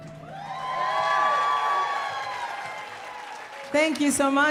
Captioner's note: audience cheering and applauding